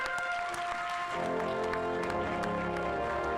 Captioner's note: instrumental music; audience applauding; instrumental music